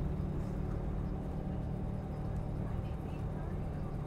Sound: bus hums

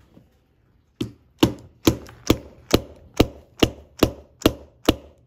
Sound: screwdriver thudding

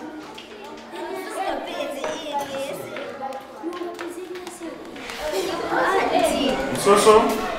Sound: students talking quietly

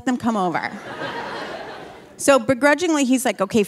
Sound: audience laughing

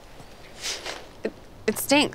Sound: sniffing

